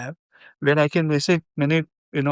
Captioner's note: speaking in foreign language